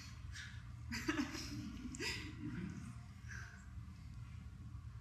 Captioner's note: audience chuckling